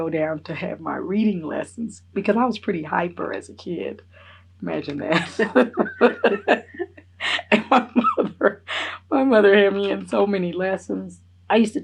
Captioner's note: laughs